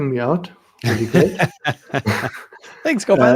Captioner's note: laughter